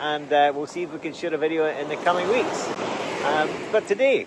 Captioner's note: waves whooshing